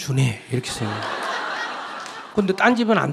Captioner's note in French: rire du public